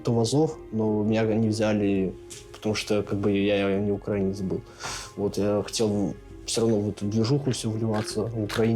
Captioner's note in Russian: фыркает